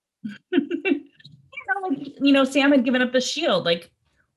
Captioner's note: laughs